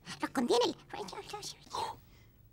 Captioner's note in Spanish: Susurros